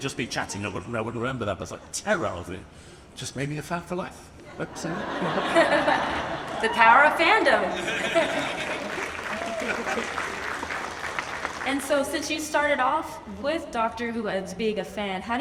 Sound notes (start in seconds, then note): 4.5 laughs; 4.6 audience laughs; 7.7 audience applauds